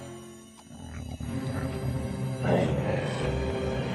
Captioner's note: snarling